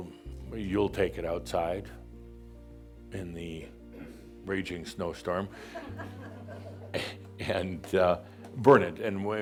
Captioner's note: a few chuckles